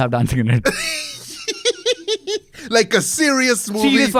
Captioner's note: laughs